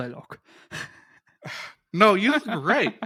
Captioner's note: both laughing